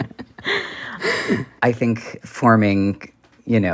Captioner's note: laughter